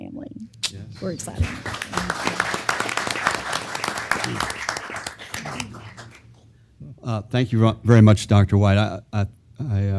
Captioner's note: applause